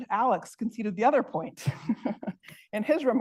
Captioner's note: laughs